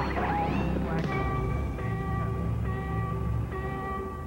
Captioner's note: beeping